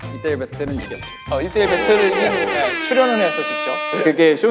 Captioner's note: whoot, whoot, whoot